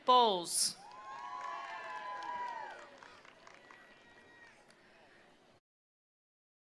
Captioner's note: attendees applauding; attendees cheering